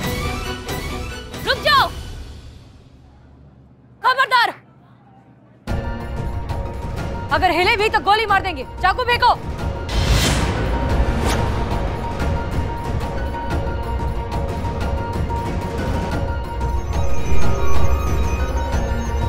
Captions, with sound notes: Beware! If you move, I'll shoot. Throw away the knife. [intense music] [metallic sound]